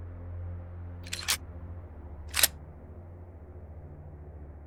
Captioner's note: gun cocking